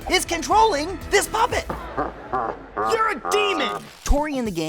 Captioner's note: laughing